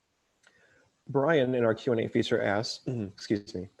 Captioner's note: coughs